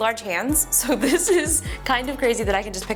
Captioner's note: laughs